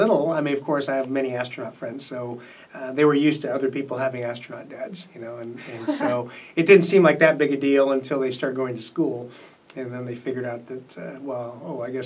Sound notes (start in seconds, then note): 5.7 laughs